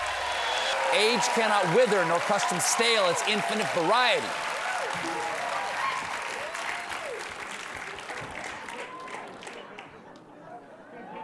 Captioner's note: applause; laughter